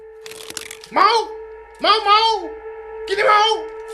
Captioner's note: foreign language